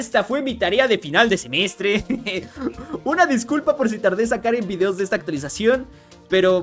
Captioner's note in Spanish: risas